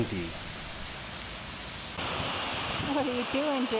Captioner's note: water gushing loudly